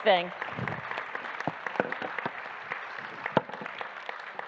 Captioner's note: audience applauding